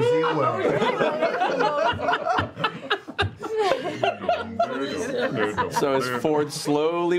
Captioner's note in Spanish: risas